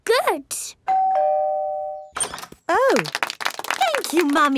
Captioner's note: doorbell ringing; crowd applauding